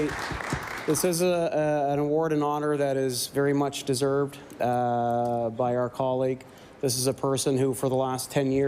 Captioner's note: applause